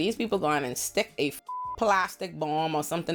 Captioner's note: beep